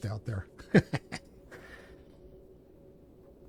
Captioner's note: laughs